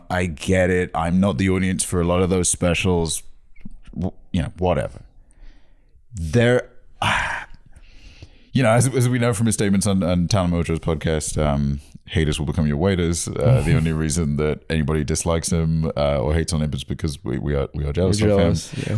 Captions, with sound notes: I get it. I'm not the audience for a lot of those specials. You know, whatever. There... (sighs) As we know from his statements on Tana Mongeau's podcast, um, haters will become your waiters. The only reason that anybody dislikes him or hates on him - is because we are jealous of him. - We're jealous.